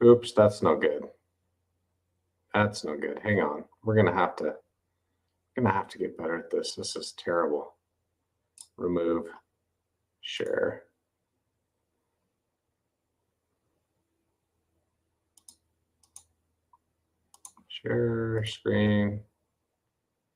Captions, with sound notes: Oops, that's no good. That's no good, hang on. We're going to have to- I'm gonna have to get better at this. This is terrible. Remove. Share. (mouse clicks) Share screen.